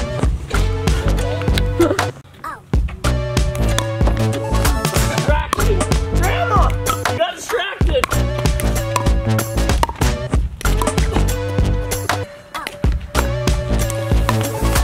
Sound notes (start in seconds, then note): 0.1 competitive music; 7.9 ball knocks against paddles; 11.6 competitive music